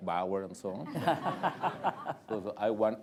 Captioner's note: laughter